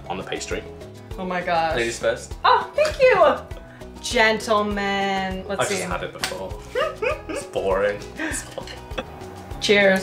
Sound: laughter

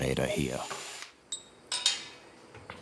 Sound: clinking

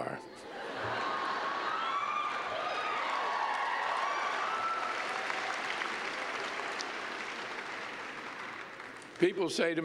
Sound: laughter, cheers, and clapping

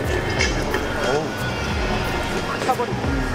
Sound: A barrage of exclamations

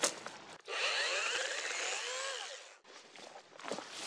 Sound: leaves and branches crackling; chainsaw running; leaves and branches crackling

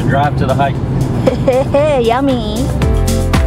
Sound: laughter; upbeat music

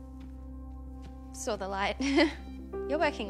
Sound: chuckles

